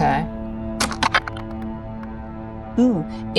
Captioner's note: dice clink